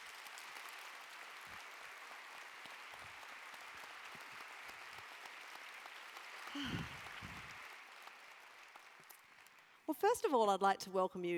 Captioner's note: applause